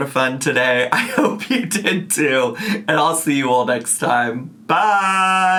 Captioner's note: laughs